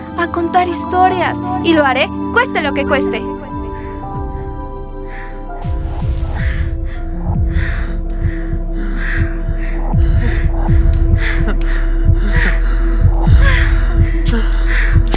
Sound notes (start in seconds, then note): 6.2 moaning